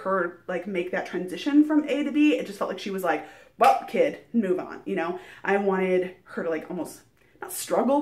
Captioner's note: snap